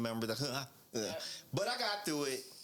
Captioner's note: laughing